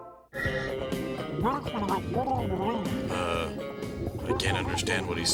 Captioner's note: <i> gurgling</i>